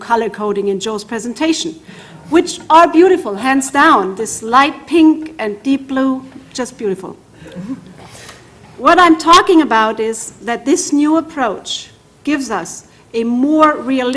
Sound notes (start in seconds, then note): 7.4 laugh